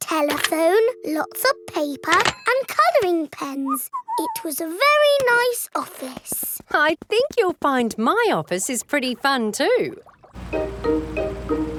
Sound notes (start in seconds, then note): 3.6 whistles